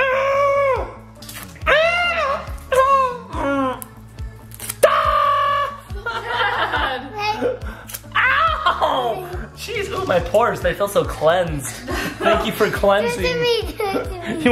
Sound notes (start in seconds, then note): 2.6 dad whimpers; 4.8 screams; 5.9 laughs